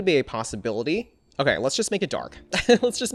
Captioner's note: laughs